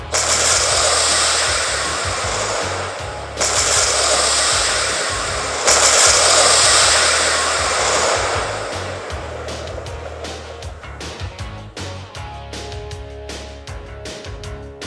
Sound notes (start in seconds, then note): 0.1 missile exploding; 2.2 multiple Missiles Launch sound; 6.0 missiles exploding